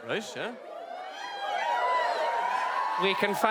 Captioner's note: whistles and wooo; more whistles and woooo